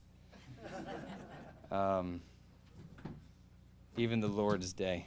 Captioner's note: audience laughing